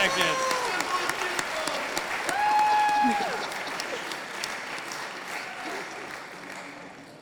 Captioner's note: audience applauding